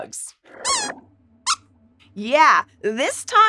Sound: squeaks squeaks

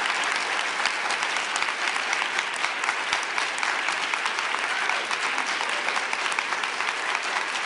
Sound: applause

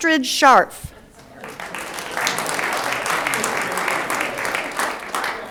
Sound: audience applauds

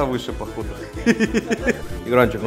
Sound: giggles like a boss

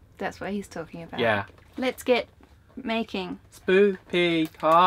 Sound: none

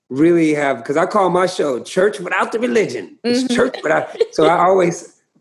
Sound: laughter

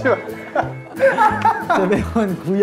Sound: laughing

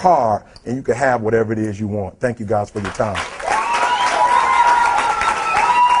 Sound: applause

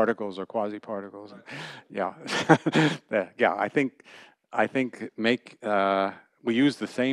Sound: laughter

